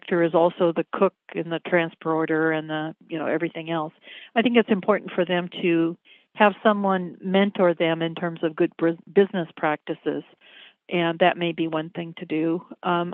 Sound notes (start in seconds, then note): none